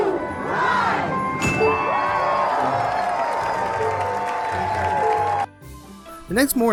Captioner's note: applause